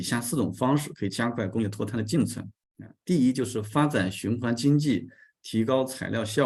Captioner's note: continues to speak in Chinese